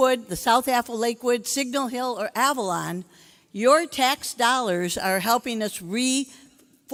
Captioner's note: none